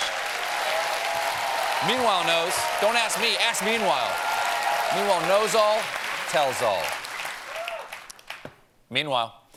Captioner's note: cheers and applause